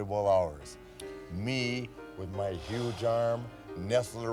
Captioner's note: McMahon sighs